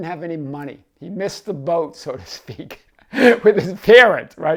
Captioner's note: laughs